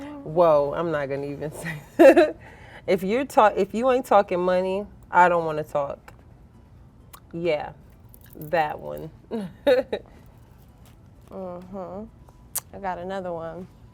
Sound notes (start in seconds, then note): 9.3 giggling